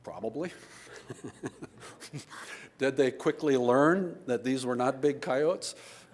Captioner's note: laughs